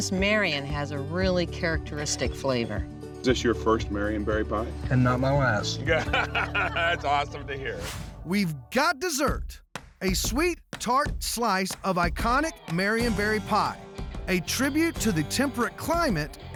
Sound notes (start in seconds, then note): 5.8 laughter